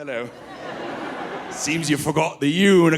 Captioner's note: audience laughing